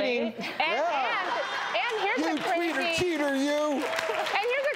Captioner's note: clapping